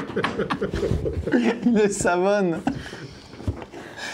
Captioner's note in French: en riant; rire